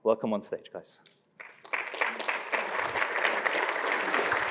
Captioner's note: applause